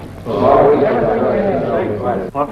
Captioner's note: men chattering